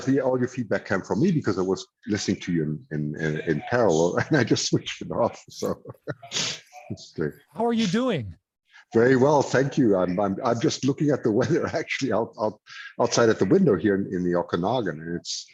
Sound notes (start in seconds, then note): 5.6 laughs